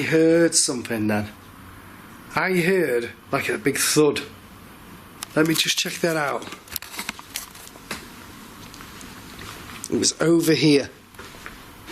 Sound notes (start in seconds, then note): none